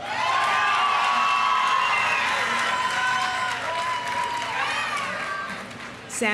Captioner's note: audience cheering; audience applauding